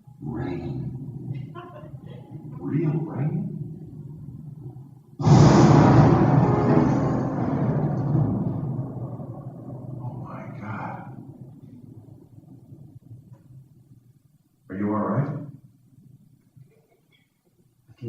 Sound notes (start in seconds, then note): 5.2 loud thunder and lighting